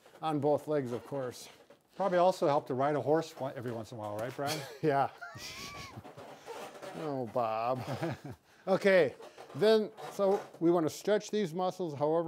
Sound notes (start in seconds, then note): 5.3 wheezing; 7.7 laughing